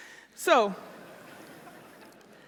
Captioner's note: laughter